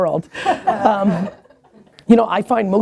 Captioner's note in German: Lachen